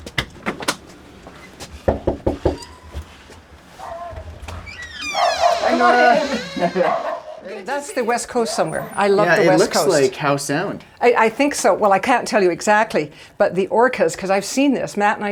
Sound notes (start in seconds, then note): 5.1 dogs barking; 6.6 laugh